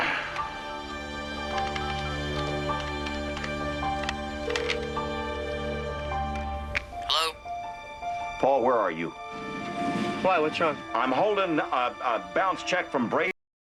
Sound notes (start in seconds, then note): 4.4 phone ringing